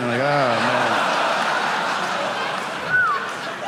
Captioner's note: audience laughing; whistles